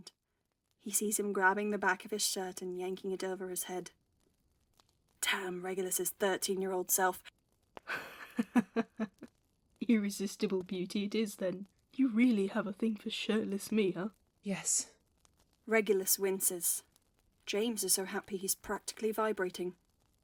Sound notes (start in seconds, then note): 7.9 James laughs